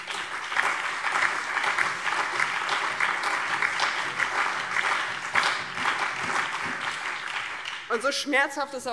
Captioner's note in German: Beifall